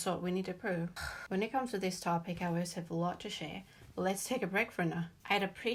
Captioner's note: sigh